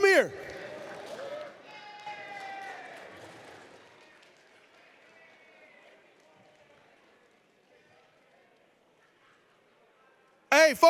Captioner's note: applause